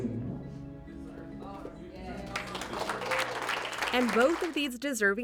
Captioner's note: applause